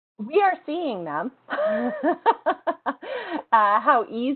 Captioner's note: laughter